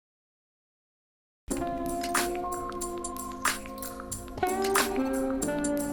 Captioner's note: radio shuts off